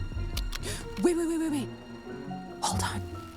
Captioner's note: gasps